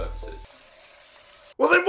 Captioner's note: bathtub sounds